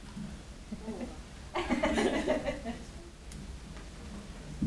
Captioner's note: audience laughing